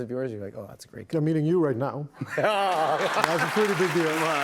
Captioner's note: applause